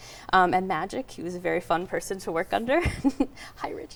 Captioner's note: chuckles